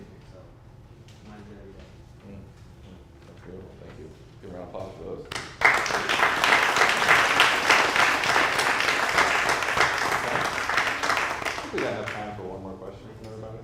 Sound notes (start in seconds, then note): 5.3 speakers applaud; 5.4 audience applauds